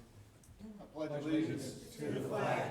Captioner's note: group chanting